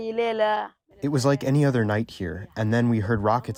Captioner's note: through translator